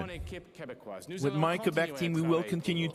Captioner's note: speaking in French